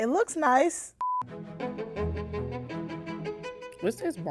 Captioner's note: beep